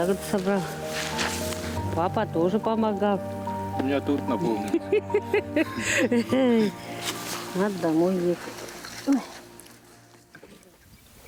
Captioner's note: laughing